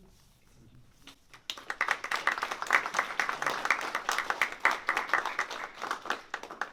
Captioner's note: applause